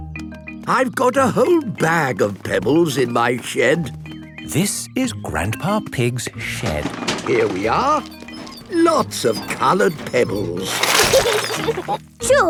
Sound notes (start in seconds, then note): 6.4 bangs and rattles; 11.0 laughing